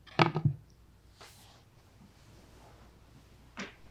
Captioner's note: phone thudding